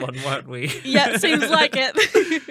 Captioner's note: laughing